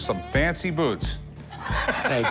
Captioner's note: laughs